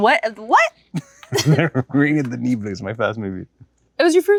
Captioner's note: chuckles